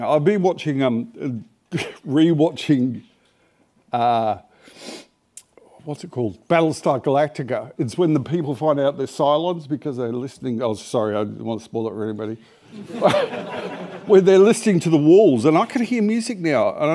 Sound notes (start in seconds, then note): 12.7 laughter